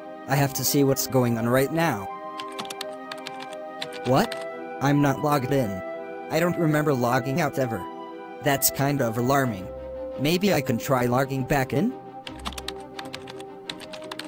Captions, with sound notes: I have to see what's going on right now. [SFX: Computer Keyboard] What? I'm not logged in... I don't remember logging out ever. That's kind of alarming! Maybe I can try logging back in?